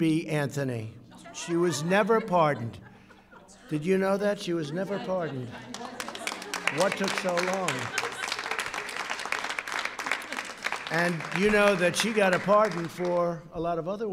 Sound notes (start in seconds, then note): 0.9 laughter; 5.6 applause